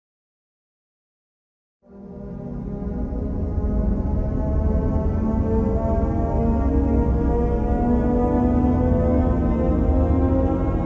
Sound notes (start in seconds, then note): 0.0 sound of THX